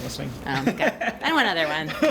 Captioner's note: laughs